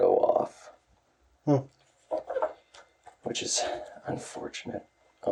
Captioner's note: judgingly